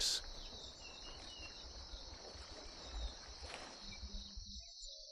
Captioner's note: birds chirping